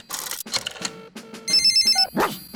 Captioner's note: line rings; barks